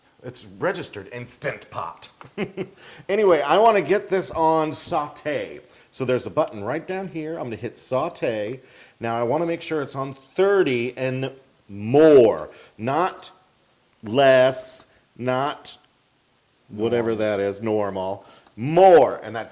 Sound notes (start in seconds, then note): 2.2 laugh